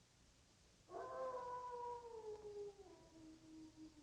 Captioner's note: wolf howling